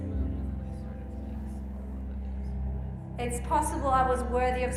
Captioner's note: group speaking quietly